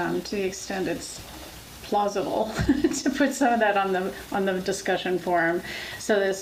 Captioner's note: laughs